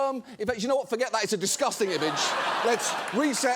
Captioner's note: audience laughing